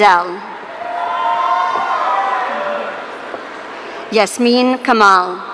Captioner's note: audience cheering